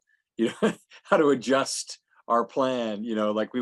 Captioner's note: laughs